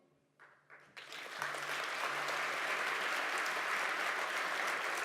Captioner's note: audience applauds